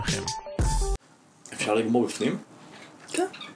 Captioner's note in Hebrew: המוזיקה נפסקת